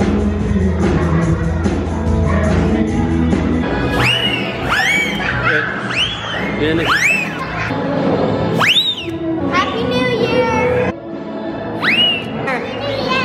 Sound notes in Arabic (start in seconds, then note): 3.9 صفير ضارية عالي; 11.8 صافرة